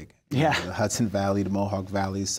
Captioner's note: chuckles